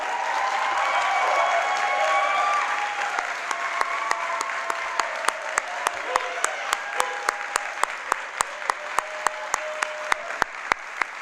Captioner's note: applause